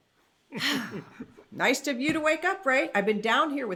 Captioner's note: chuckles; sighs